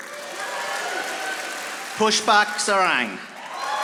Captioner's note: audience applauding